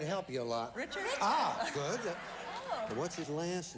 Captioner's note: audience applauding